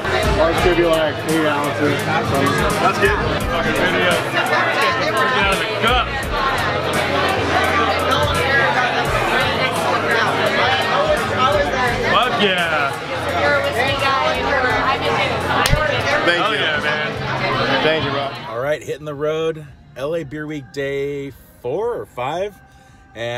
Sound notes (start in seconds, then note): 2.2 mutters; 4.0 bar patrons talking